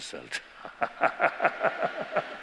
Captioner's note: laughter